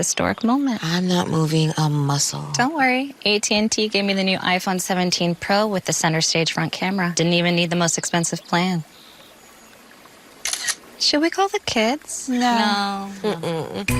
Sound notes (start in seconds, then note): 10.4 camera clicks